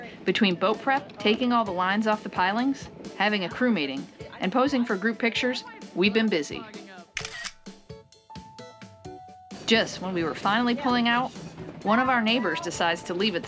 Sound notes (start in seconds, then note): 7.2 camera click